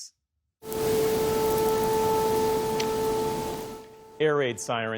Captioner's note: sirens blaring